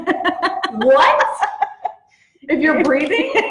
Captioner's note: laughs